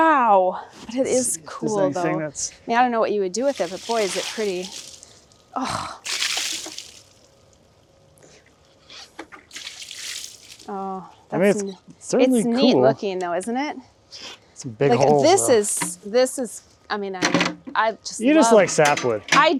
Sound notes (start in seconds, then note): 6.5 liquid splashing